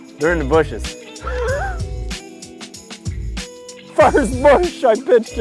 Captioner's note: Mike chuckles